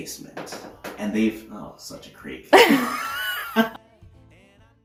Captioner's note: laughter